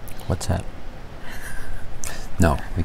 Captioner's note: chuckle